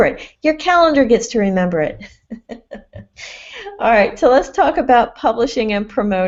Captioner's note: laughs